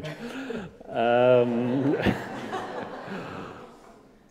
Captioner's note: audience laughing